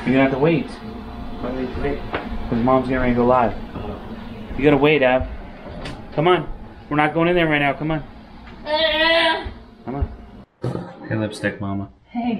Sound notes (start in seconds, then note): 8.6 yells